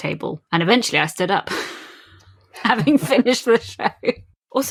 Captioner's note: laughing